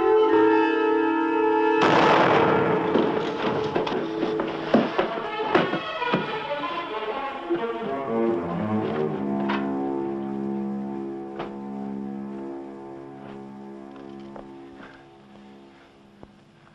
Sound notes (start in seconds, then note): 1.8 gun fires; 6.6 dramatic music